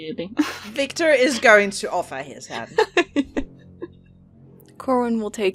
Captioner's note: Mira laughs